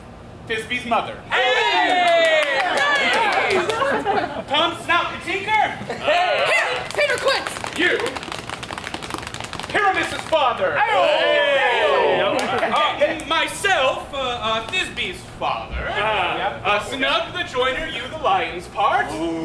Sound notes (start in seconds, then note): 2.6 actors chattering